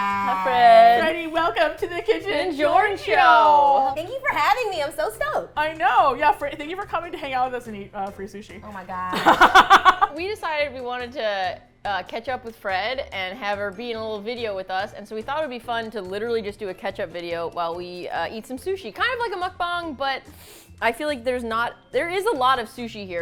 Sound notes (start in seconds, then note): 8.4 in disbelief; 9.1 laughs